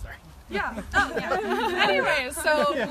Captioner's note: laughing